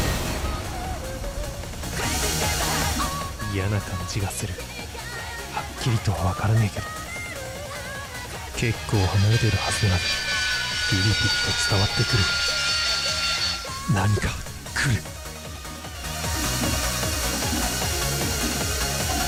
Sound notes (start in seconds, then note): 12.2 jet like roar